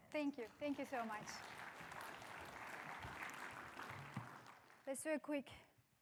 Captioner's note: crowd applauds